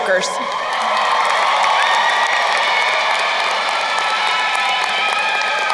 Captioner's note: crowd cheering and applauding